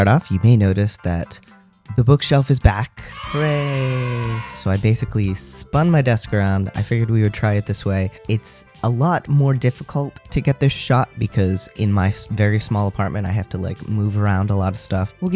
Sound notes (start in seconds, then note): 3.1 cheering